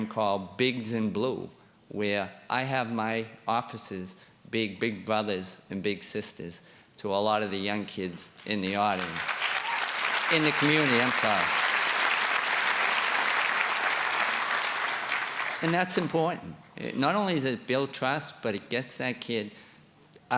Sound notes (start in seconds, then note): 9.2 applause